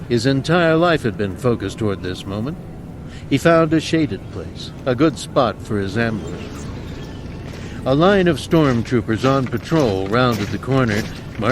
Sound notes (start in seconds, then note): 7.8 marching soldiers approach